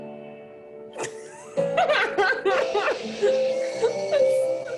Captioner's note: laughing